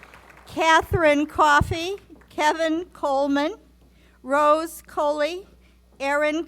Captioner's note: applause